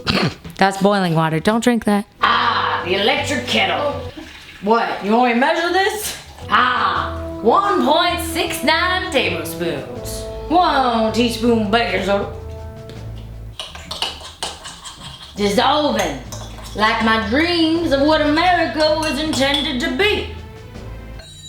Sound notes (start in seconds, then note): 2.2 laughs; 3.9 woman's Voice; 13.5 spoon scraping